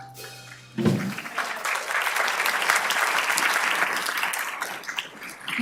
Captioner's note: audience clapping